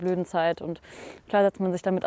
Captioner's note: sniff